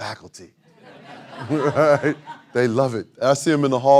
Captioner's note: audience laughing